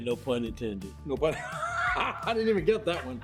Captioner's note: laughs